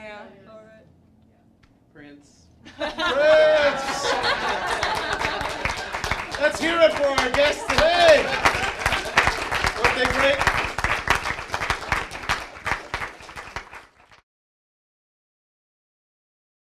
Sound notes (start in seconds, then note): 2.6 laughter; 13.6 applause